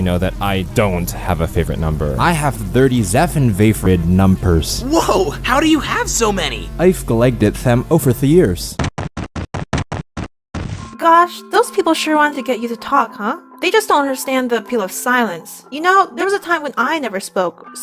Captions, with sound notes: that I DON'T have a favorite number. [thick accent] I have thirty–seven favorite numbers. Woah, how do you have so many? I've collected them over the years. [stomping] Gosh, those people sure want to get you to talk, huh? They just don't understand the appeal of silence. You know, there was a time when I never spoke,